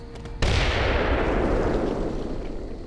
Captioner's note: explosion